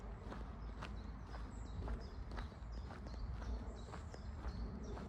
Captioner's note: bird song